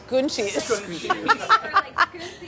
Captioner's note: laughing